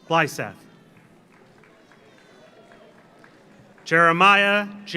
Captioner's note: audience applauds